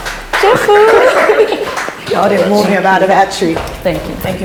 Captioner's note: laughs